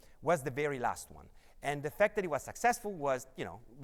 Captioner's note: none